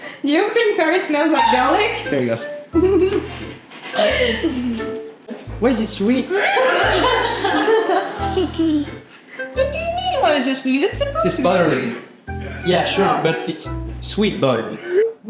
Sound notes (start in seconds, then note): 6.2 laughs